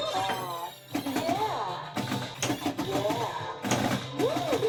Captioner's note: game beeping; computerized voice